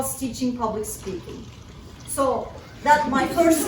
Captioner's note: laughter